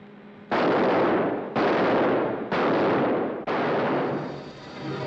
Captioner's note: gunshots; sinister ominous music